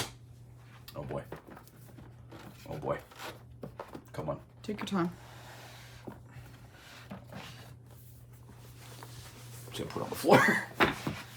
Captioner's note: laughs